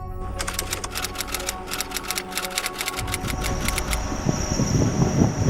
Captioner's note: somber ethereal music; typewriter clacking sounds